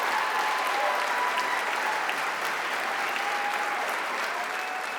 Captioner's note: applause